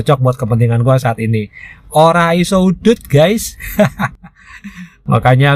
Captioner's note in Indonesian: tertawa